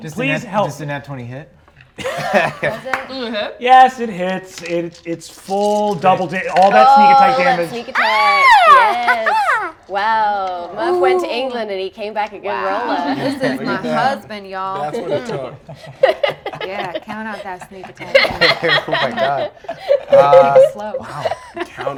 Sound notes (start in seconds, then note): 2.4 laughs; 7.9 laughs; 16.6 laughter